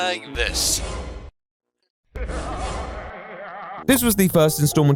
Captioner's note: evil laughing